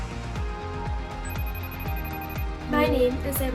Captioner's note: phone rings